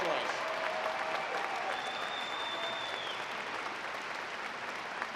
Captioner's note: audience applauding